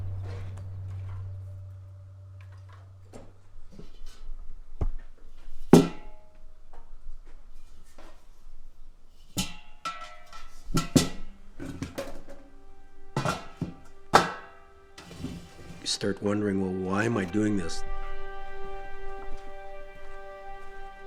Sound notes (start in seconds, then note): 0.0 distant clattering; 5.7 clang